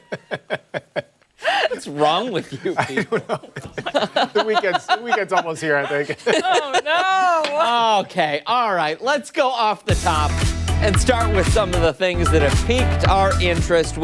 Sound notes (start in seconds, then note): 2.5 laughter